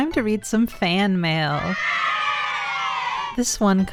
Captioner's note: children cheering